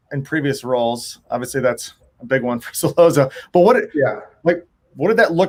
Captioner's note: laughs